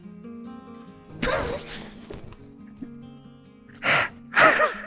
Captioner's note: laughs painfully; sobs